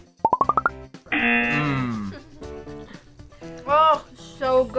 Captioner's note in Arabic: يطن الجرس